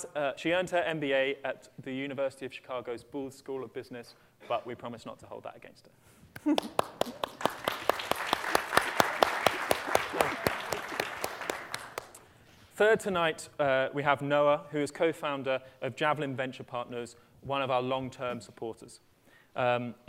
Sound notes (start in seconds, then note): 6.1 laughter; 6.4 applause